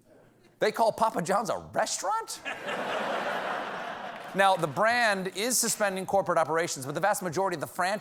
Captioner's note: laughter